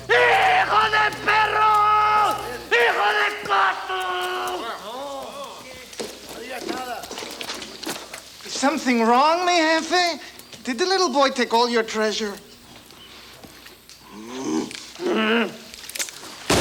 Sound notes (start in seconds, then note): 0.1 Bruto yells in Spanish; 4.6 gang members murmur; 14.2 Bruto grunts; 15.0 gang member groans; 16.4 gun fires